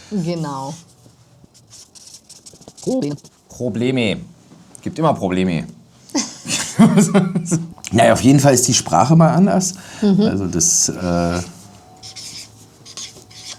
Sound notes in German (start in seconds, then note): 6.1 gelächter